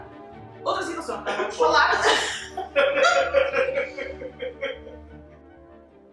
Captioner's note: laughs